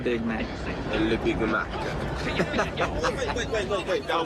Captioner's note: laughing